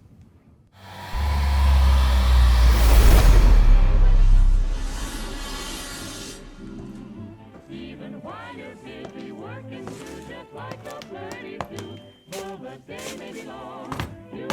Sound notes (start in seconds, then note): 0.8 suspenseful music; 3.9 machine whirring